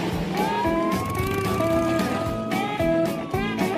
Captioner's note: police siren